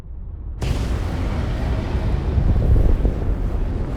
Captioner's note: engine blasting